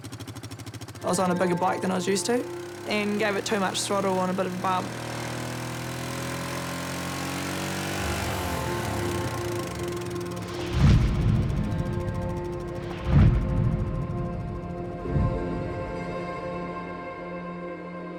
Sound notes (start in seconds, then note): 7.8 engine revs; 9.8 dramatic music; 13.0 crash!